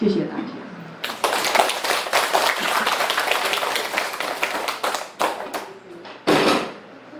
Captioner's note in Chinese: 眾人鼓掌